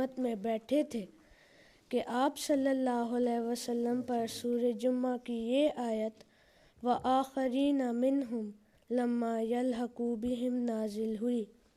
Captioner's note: Arabic